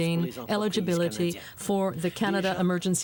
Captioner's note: speaking French